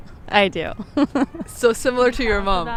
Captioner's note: laughing